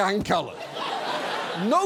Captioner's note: studio audience laughs